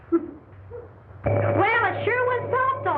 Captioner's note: machine vibrating